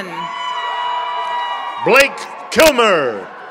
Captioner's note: members of the audience cheer